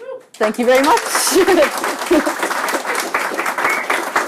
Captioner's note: applause